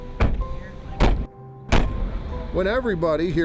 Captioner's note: trunk lids slam; car door slams